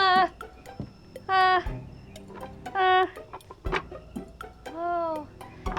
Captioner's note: Professor Panic sputtering